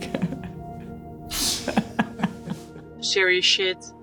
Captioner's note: laughter